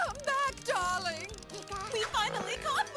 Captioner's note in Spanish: preocupado